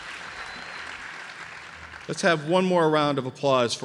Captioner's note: applause